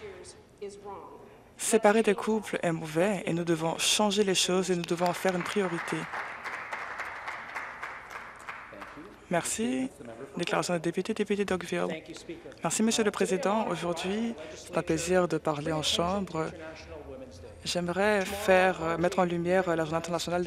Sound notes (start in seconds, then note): 9.3 applause